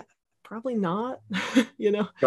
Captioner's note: laughing